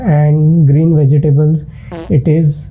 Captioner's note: fart sound